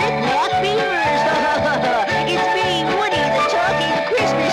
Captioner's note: toy chuckles